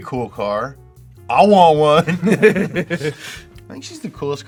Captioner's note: laughs